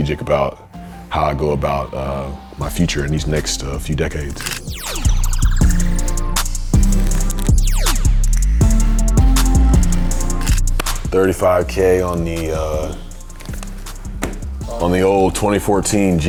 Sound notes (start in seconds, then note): 4.3 camera shutters; 5.5 upbeat music